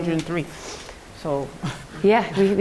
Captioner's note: chuckles